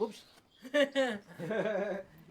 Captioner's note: laughing